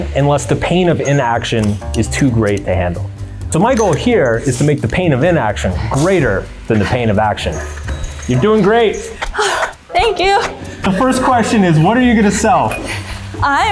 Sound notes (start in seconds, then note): 9.1 pants